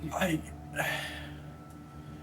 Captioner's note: sighs